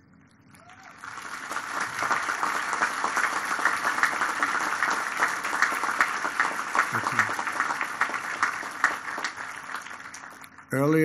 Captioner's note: applause